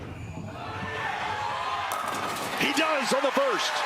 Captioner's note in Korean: 환호